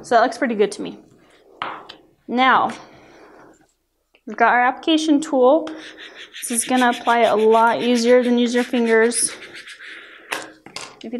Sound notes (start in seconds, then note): 5.7 rubbing